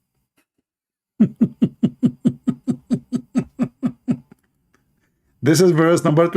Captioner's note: Ketawa